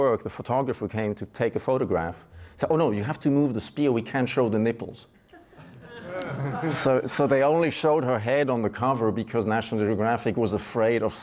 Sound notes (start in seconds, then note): 5.3 audience laughs